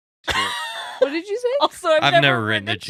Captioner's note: laughing